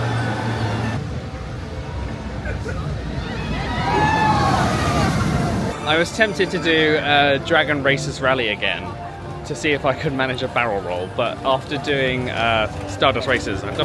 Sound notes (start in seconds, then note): 1.3 roller coaster wheels thundering continues; 2.6 guests squealing